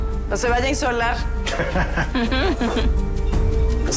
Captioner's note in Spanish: Risas